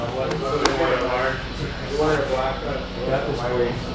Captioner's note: men chattering